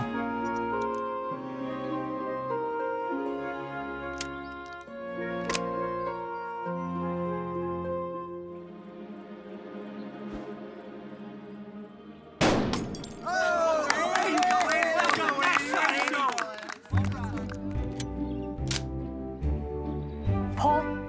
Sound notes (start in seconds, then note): 12.4 gunshot; 12.4 clay pigeon explodes; 13.2 cheering, applause